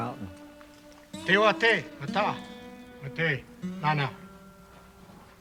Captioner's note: non-english speech